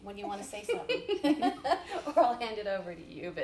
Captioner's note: laughs